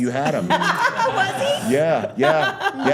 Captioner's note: laughs